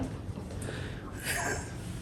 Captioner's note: laughing in the background